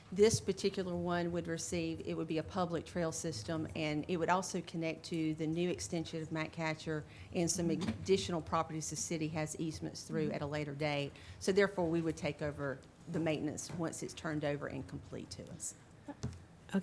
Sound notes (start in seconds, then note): none